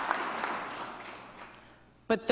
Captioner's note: applause